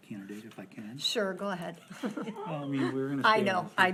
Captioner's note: laughs